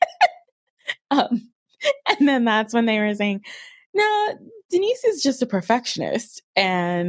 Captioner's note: laughing